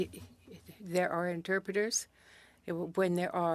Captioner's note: speaking French